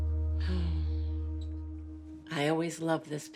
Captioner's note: sighs